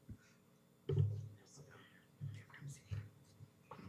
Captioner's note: whispering